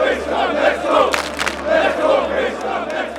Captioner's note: crowd clapping